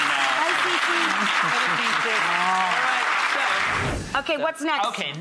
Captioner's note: crowd applauding